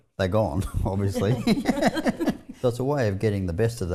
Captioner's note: laughing